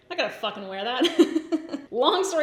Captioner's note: laughs